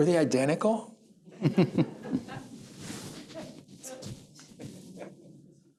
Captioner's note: laughter